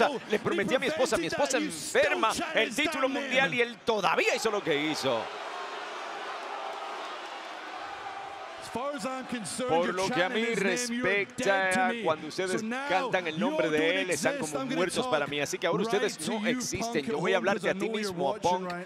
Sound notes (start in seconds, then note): 5.8 applause